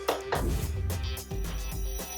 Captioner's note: clapping; whoosh